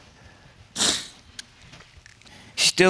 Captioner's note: sniffles